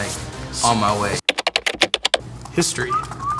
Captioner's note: keyboard typing